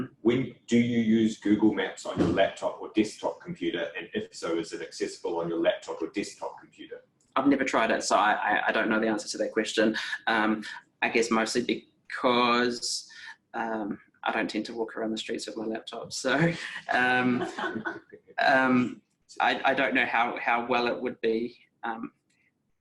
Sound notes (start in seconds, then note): 16.4 everyone laughing